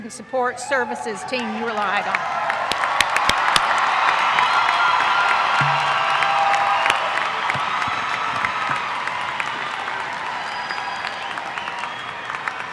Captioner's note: applause